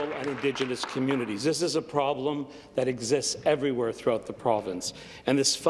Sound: applause

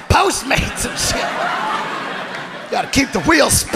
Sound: audience laughing

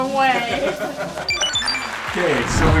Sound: laughs; high-pitched beeps

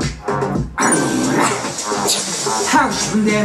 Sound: growling like a tiger

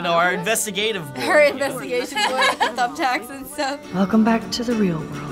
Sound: laughs

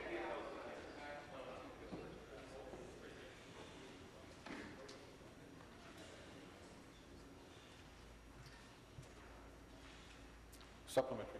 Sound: conversation din

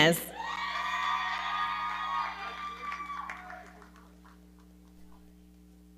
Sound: audience cheering

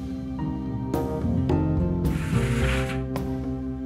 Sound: pan sliding

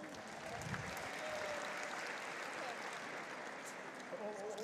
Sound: audience applauds

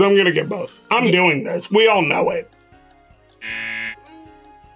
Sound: buzzer

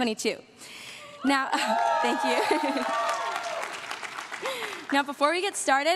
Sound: crowd cheering

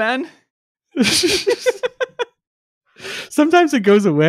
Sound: both chuckling

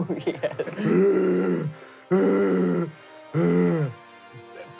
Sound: grunting

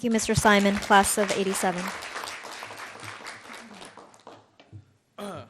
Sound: audience clapping

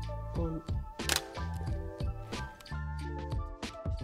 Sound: camera shutter clicks

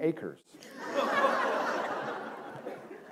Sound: laughter

